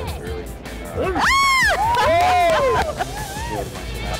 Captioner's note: cheering